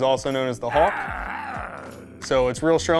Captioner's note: growling